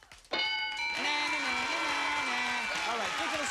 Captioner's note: cheers and applause